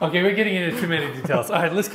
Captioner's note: laughs